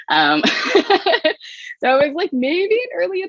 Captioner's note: laughs